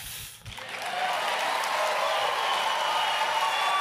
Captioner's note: applause